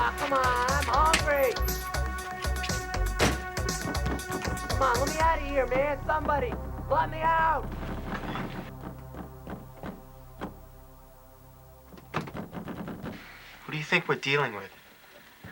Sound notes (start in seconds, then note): 8.4 banging